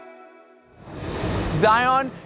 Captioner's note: screen swooshing